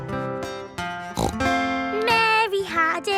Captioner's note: playing guitar; snorts